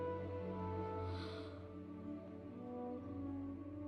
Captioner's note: gasps